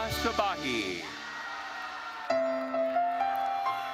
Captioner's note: attendees cheering; gentle music